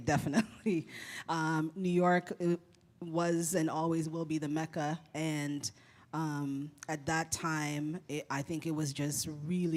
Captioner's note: chuckle